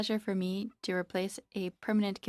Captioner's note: speaking in French